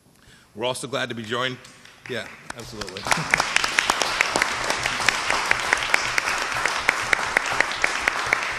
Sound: applause

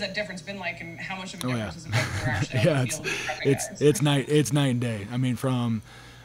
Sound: chuckles

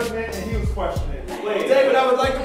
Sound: voiceover

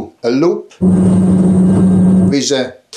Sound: plane engine rumbling

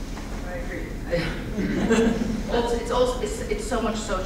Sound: laughing

